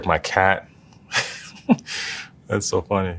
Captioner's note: laugh